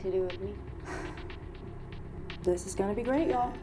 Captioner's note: Rachel sighs